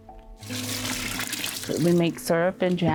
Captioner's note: water splashing